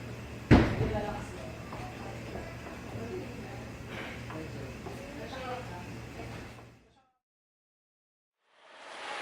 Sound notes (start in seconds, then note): 3.9 sigh